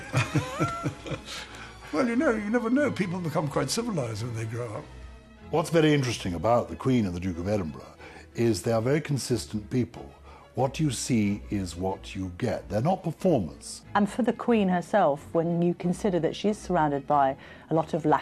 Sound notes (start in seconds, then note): 0.0 laughing; 0.2 voiceover